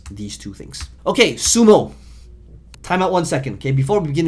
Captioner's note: striking keyboard